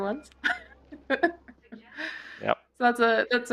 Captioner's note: laughs